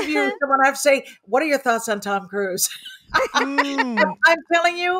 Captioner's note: laughs